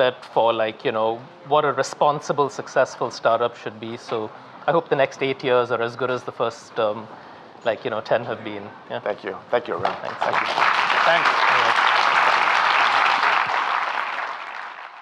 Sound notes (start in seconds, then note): 9.9 audience applauding